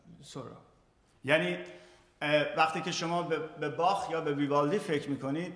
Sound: speaking in farsi

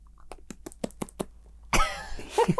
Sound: flapping tongue; laughing

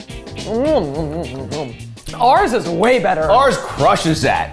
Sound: imitating mumbling

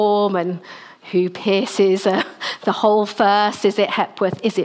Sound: laughs

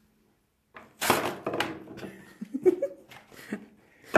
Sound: tearing; laughing

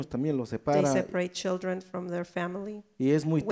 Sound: speaks in foreign language

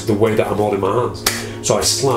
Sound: claps hands

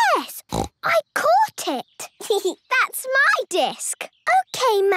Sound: snorting; giggling

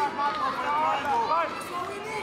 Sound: trainers shouting

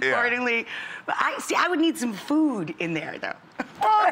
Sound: laughs

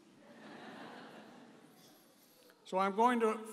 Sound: audience laughing

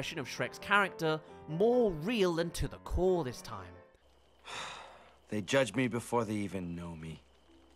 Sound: sighs

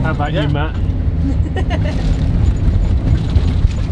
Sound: laughs

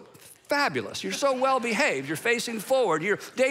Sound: congregation laughing

